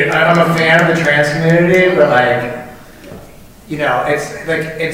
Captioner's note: wincing